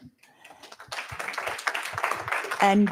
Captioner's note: applause